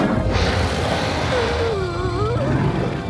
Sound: gasping

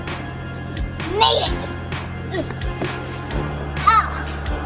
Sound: grunts

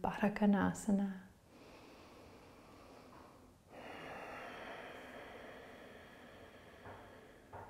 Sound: breathing

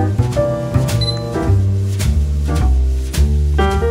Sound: camera beeps

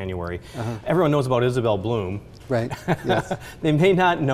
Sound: laughs

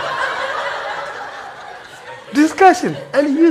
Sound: audience laughing

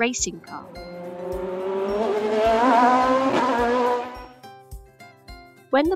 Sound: sound of racing car

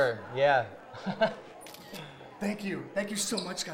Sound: laugh

